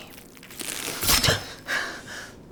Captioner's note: flesh tearing